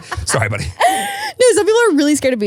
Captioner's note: laughing